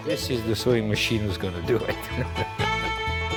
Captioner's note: chuckling